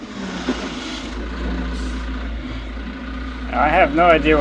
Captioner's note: machinery rumbles